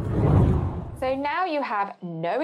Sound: whooshing

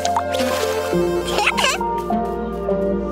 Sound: giggles

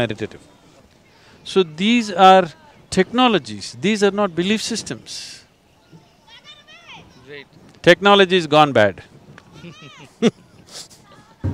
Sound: laughs

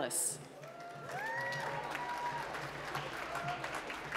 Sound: applause

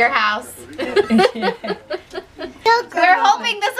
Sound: laughs

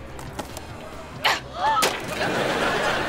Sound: gasping

